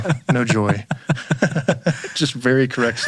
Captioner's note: both laughing